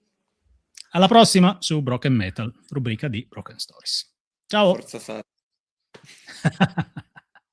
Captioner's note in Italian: risate